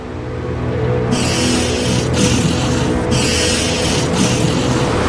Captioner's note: elephant seal yowls